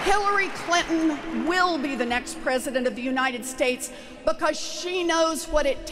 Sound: applause

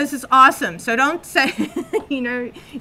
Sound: chuckles

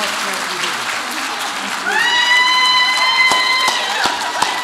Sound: audience applauds

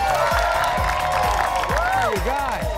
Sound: audience cheering

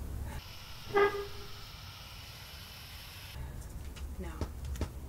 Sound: metal squeaking

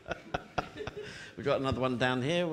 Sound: laughing

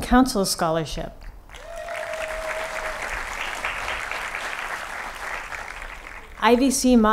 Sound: applause

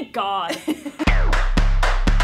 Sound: laughter; upbeat music

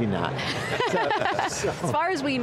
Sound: laughing

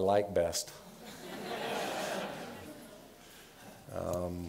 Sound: laughter

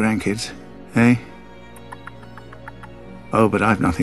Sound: chuckles

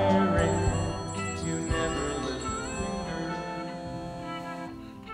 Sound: phone ringing

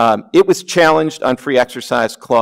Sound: none

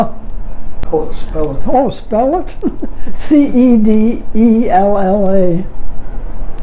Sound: chuckles

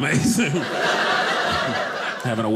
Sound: audience laughing

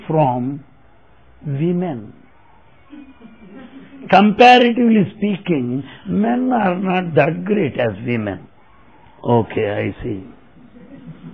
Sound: laughter

